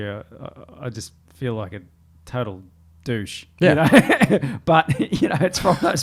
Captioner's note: laughs